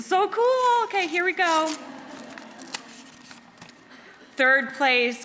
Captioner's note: audience laughing